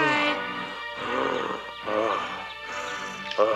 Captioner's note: gasping